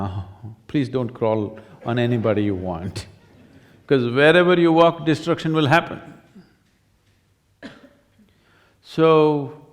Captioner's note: laughs